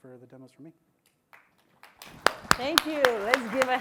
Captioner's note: applause